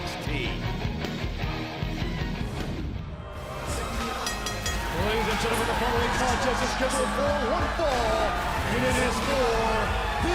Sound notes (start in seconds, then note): 4.0 bell ringing